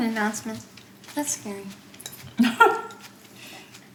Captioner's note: dishes scraping; mom laughs